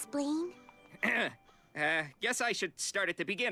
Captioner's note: clears throat